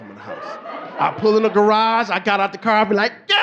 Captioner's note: audience laughing